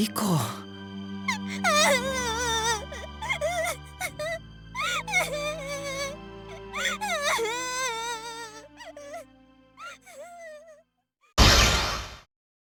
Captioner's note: sob